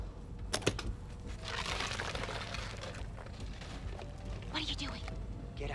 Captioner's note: chest freezer clicks; ice cubes rattle